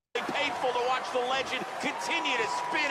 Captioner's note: overlapping voices and crowd noises